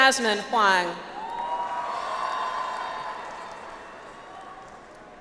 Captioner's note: audience applauds